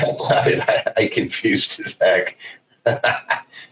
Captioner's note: laughs